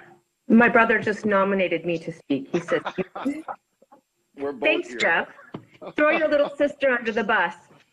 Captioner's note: laughter